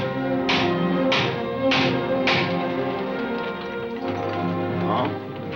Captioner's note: thumping